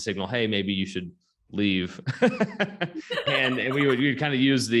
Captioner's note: laughs